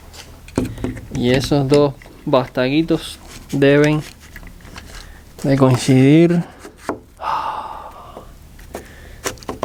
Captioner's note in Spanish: suspiro de alivio